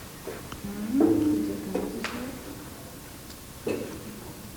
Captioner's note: humming